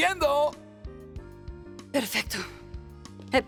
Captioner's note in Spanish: Grita; respira profundamente